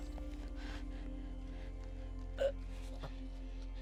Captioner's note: gasps